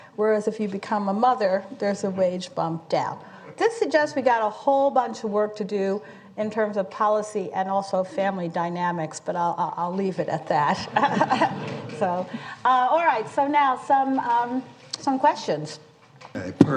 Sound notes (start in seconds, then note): 10.7 laughter